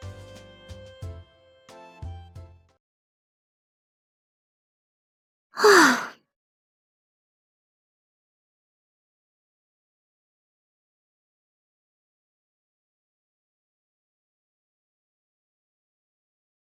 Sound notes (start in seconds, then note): 5.5 sigh